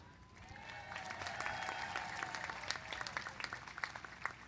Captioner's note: applause